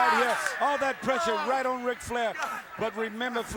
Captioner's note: crowd chatter